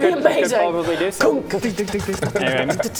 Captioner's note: kunk!